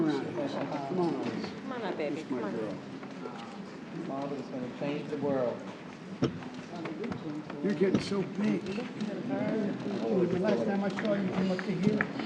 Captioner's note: applause